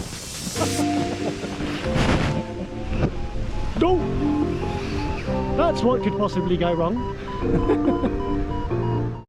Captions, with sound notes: (gentle music) That's what could possibly go wrong (chuckling).